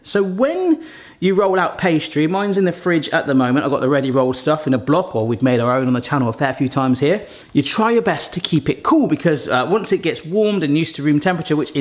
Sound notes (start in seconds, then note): none